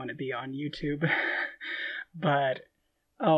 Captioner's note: laughing